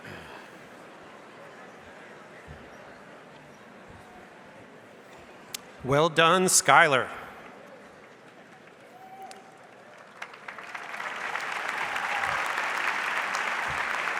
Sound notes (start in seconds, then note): 10.4 audience applauds